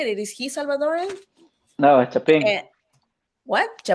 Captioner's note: speaks Spanish